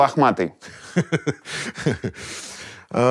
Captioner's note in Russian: смеется